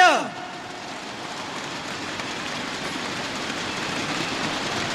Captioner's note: crowd cheering